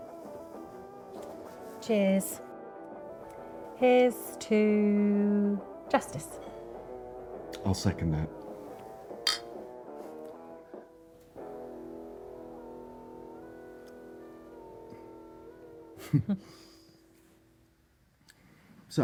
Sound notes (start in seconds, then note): 9.2 glasses clinking; 16.0 both chuckling